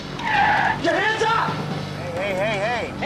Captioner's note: tires screeching